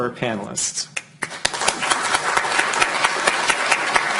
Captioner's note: clapping